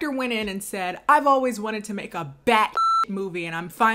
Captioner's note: beep